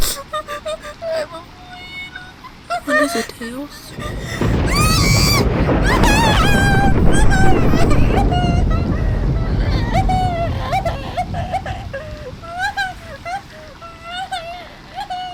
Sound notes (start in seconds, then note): 0.7 crying; 5.4 shrieks; 6.8 cries